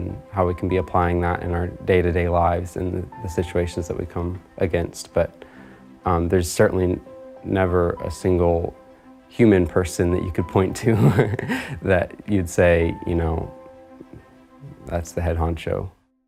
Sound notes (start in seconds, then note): 10.9 laughter